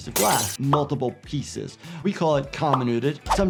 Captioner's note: glass breaking